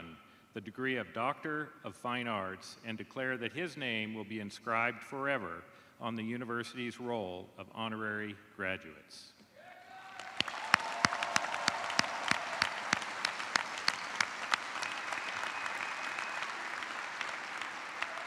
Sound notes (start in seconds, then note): 5.7 cheers and applause